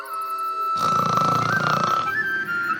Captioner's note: snoring